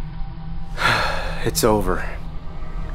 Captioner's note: sigh